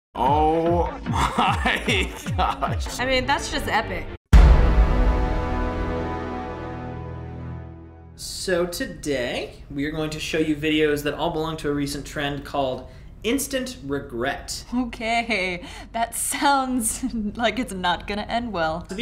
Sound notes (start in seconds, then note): 0.6 chuckles; 4.3 dramatic chord